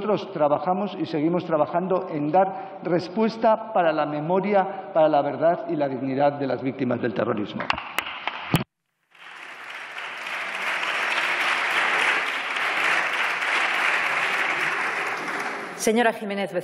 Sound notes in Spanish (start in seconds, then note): 12.0 Aplausos